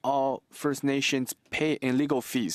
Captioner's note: speaking French